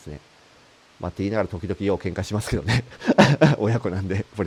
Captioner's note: laugh